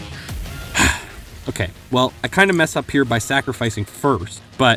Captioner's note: sigh